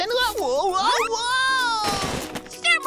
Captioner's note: thud